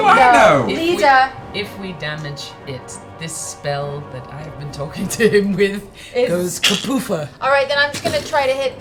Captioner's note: poof